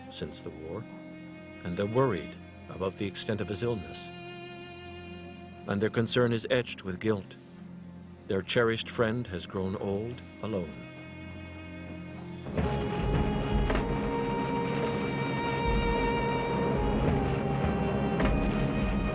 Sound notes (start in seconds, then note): 11.3 bombs exploding; 14.1 somber orchestral music